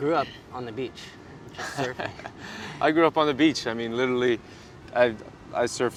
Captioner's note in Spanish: risas